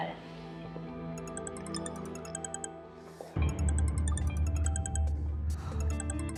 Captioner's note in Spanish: Suena el celular